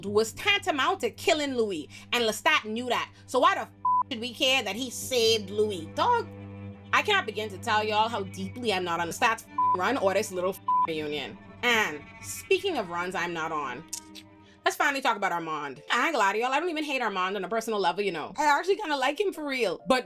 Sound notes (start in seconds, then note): 3.8 beep; 9.5 beep